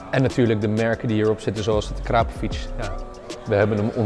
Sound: none

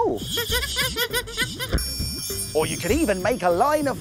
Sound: screeching

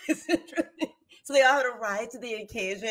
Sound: laughs

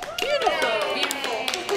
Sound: cheering

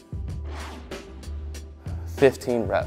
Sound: air whooshing

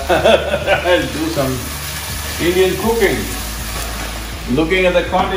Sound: laughs

